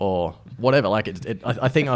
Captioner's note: laughs